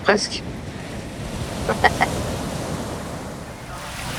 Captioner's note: laughs